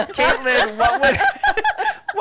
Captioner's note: laughter